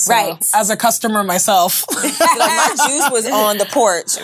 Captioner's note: all laughing